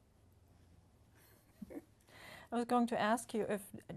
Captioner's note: laughter